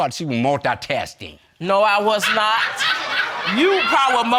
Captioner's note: audience laughing